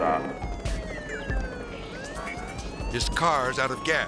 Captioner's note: siren continues blaring